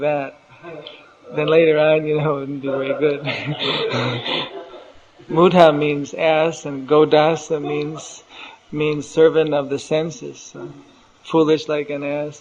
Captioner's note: laughs